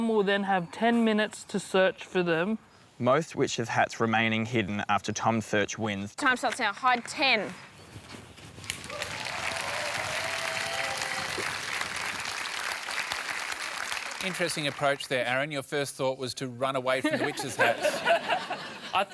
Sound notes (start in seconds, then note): 8.6 applause